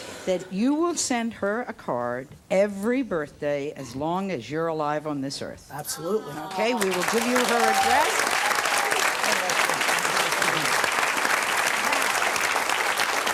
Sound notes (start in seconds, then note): 8.8 audience applauds